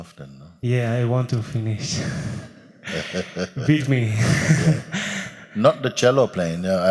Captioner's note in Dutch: gelach